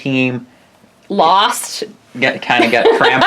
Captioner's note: laughs